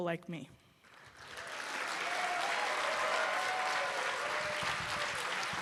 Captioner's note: cheers and applause